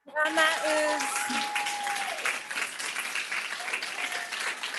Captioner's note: audience clapping